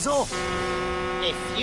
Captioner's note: honks horn